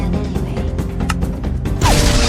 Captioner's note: button clicks